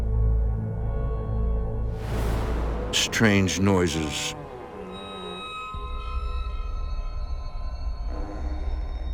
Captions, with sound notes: Strange noises. (loud creaks)